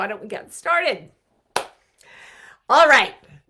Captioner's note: clap